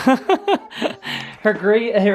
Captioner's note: chuckles